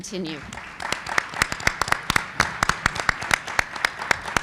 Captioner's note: group applauds